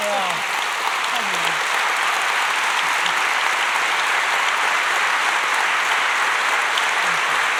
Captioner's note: applause